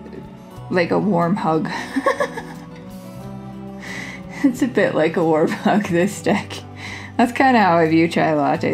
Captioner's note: laugh